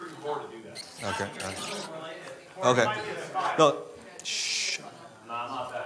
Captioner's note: audience chats indistinctly